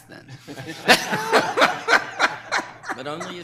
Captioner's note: people laughing